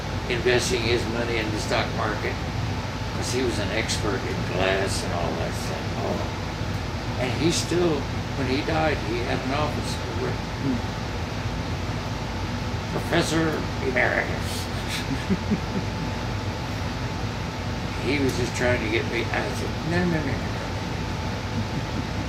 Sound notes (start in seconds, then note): 14.5 laughs; 19.6 murmurs